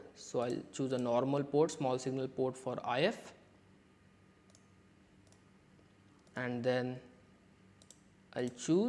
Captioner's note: click; click